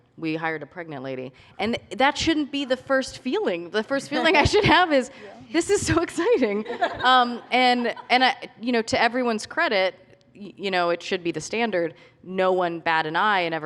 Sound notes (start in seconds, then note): 6.5 laughter